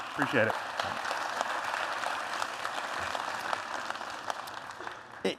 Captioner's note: applause